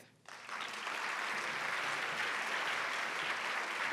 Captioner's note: applause